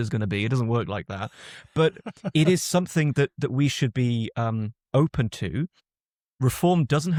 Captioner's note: laughs